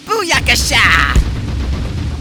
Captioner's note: kick noise